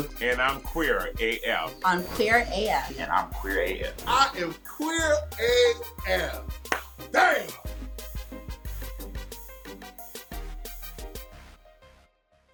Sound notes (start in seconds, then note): 6.1 clapping; 7.8 upbeat music